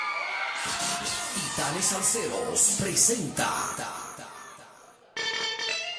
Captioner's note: radio announcer speaking Spanish